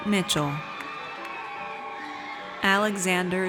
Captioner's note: audience cheers